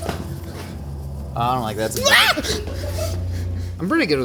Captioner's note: screaming